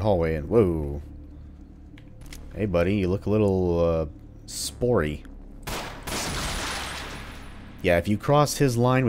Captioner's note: Glock shot, spore-covered corpse explodes loudly